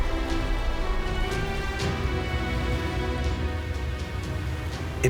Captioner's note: water rushing